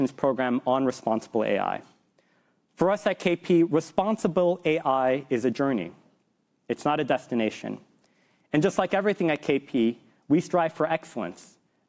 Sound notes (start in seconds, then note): none